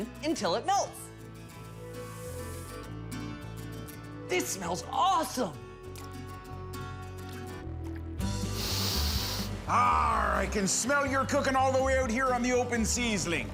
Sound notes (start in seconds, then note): 8.4 inhales